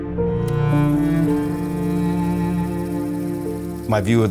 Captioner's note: tape reeling